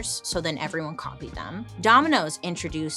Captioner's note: none